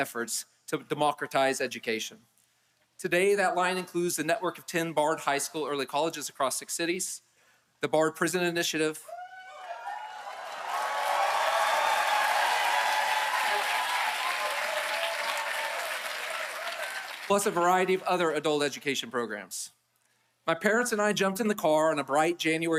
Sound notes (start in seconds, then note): 16.7 applause